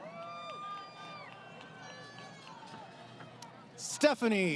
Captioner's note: crowd Cheering